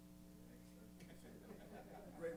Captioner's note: laughter